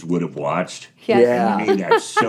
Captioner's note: laughs